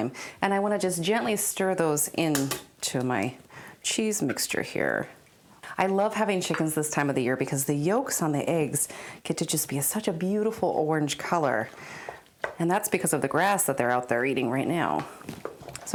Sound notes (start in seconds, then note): none